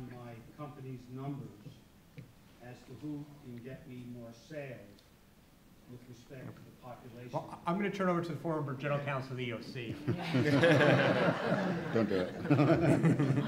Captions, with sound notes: my company's numbers as to who can get me more sales with respect to the population. - I'm gonna turn it over to the formidable General Counsel of the EOC. (laughter) - Don't do it.